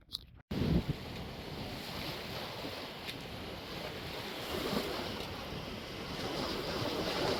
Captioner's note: wind blowing